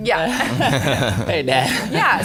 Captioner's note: laughter